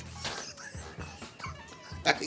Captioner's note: Cedric laughs